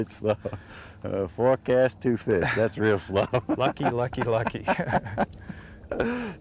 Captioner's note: laughter